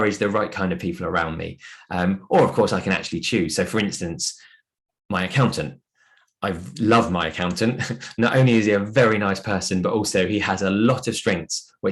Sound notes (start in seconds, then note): 7.6 chuckles